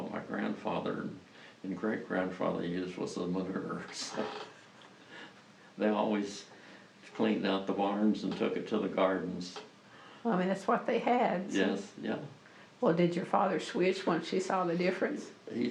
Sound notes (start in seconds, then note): 3.9 laughs